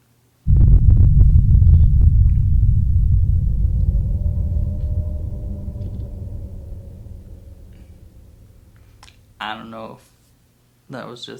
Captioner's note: bass rumble